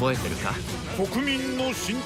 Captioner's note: man speaking japanese